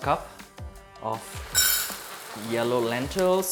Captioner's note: rice pouring in cup